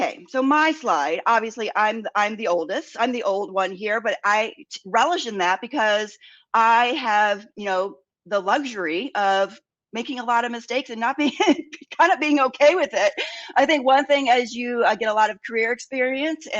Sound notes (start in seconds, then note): 13.1 laughs